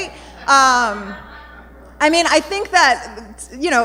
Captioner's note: audience murmuring